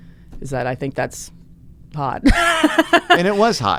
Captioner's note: laughs